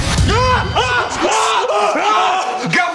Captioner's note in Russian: крики